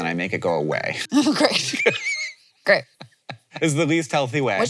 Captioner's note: Hank laughing